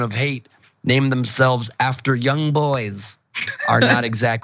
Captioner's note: laugh